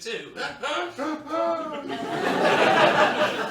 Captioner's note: laughs through clenched teeth